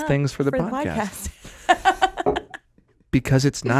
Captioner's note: laughing